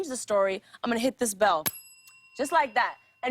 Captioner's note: ding